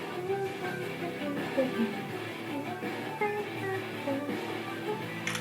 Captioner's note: mimics music